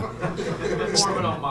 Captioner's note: laughter